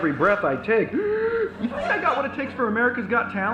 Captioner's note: inhales loudly